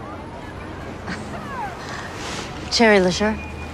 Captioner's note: chuckles softly